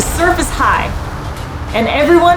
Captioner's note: background music; waves noise